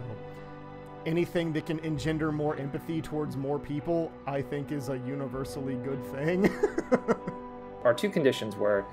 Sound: laughs

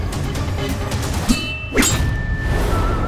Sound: metals clashing

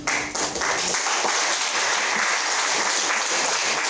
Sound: applause

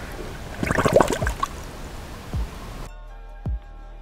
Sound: water gargles

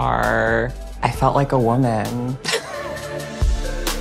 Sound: chuckles

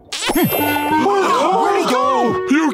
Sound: gasps

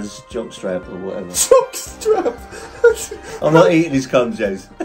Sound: laughing

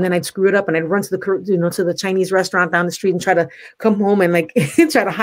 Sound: laughs

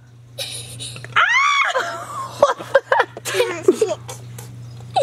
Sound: laughs; screaming playfully

